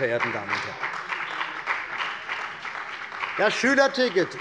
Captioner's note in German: Beifall bei der CDU und dem BÜNDNIS 90/DIE GRÜNEN